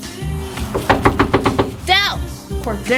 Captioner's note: knuckles rapping